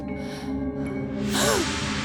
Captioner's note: gasping